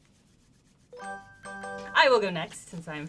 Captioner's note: victory chime